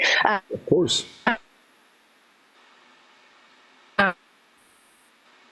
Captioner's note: audio cuts out